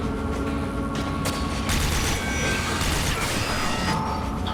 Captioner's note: intense dramatic music; gun blasting